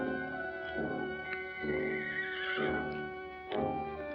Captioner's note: horse neighing in distance; foreboding music